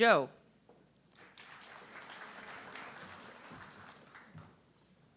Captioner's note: audience clapping